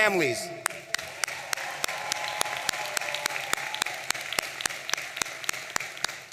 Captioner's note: audience applauding and cheering